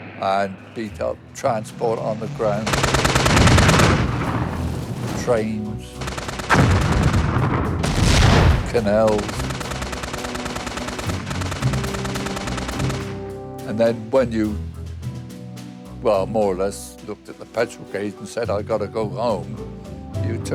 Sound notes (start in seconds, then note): 2.3 gun firing; 2.8 vehicle explodes; 6.3 gun firing; 7.1 train explodes; 9.6 guns firing